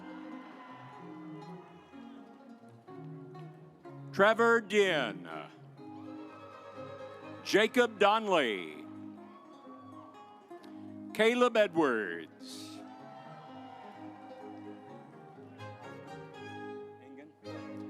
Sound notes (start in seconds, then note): 0.1 stately music; 6.0 audience applauds; 12.6 audience applauds